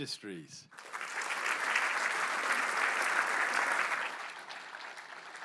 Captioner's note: applause